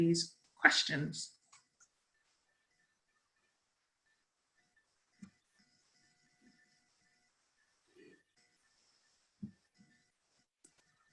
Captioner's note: silence during poll